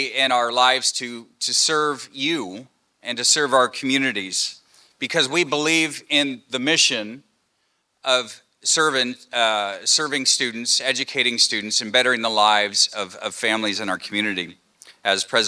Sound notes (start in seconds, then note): none